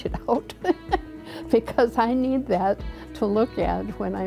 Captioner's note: laughs